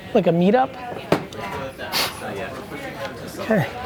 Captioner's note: sniffs